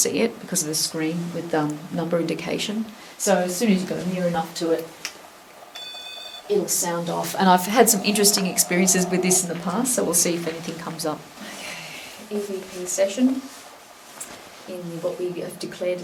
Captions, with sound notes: because of the screen with a number indication. So soon as you go near enough to it (machine beeps) it'll sound off and I've had some interesting experiences with this in the past so we'll see if anything comes up. EVP session in what we've declared as the dungeon.